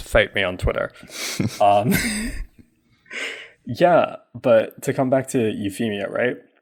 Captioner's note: laughs